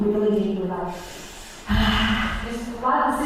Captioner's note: exhale